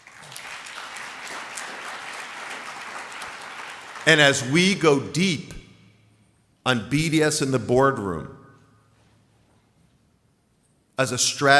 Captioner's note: applause